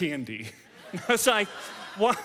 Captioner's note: audience laughs